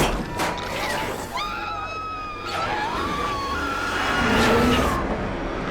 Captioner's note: female scream